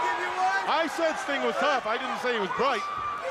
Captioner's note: crowd chatter